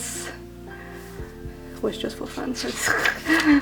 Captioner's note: laughs